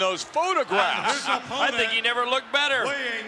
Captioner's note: laugh